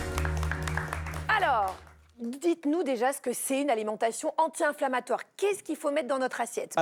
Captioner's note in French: applaudissements